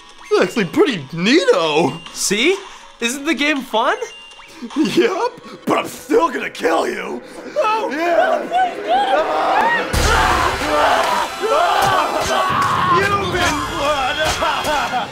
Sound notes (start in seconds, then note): 7.5 screaming; 11.0 laughing maniacally